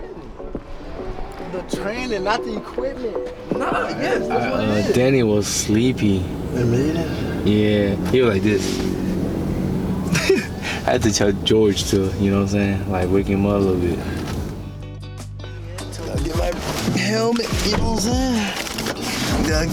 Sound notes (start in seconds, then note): 10.0 chuckles